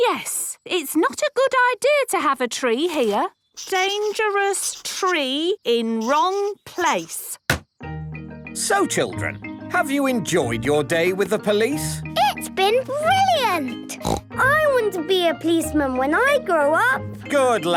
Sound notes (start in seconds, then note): 14.0 snort